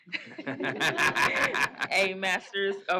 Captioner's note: laughing